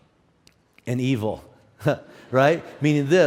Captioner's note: audience laughs